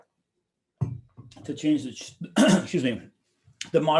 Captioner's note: clearing throat